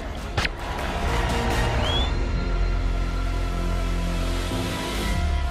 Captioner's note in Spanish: Disparo